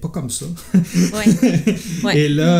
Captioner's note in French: Rires